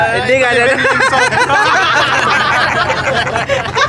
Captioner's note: laughing